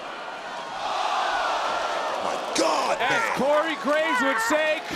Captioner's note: crowd oohing